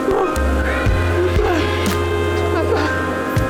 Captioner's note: crying